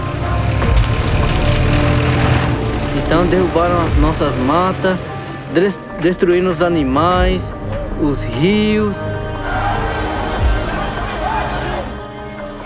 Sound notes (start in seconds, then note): 1.0 loud whirring; 9.7 inhabitants clamoring